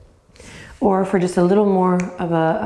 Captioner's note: snaps